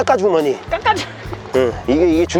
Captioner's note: laughter